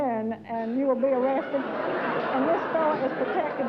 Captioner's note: laughter